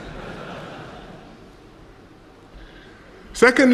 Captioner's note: laughter